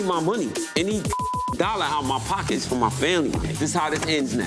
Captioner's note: beep